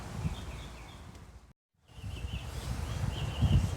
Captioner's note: birds chirping